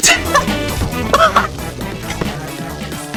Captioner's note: laughs to myself